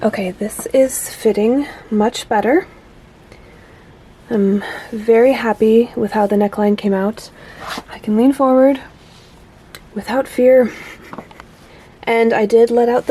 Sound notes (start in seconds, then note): 10.6 soft laughter